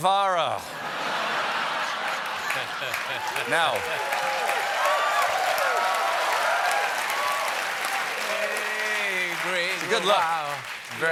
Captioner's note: applause